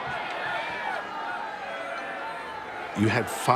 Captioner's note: people murmuring in background